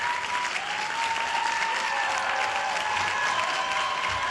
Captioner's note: applause